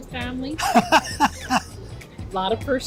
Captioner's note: laughs